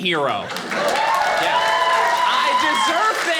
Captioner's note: audience cheering